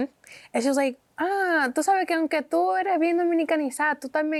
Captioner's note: speaking Spanish